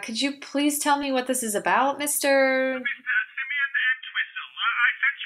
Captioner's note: on phone